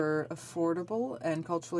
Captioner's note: speaking in French